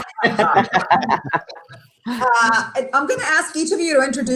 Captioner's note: laughs